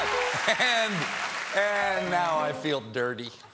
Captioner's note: cheers and applause